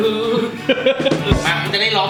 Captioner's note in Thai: หัวเราะ